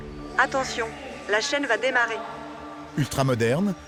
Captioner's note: woman speaking foreign language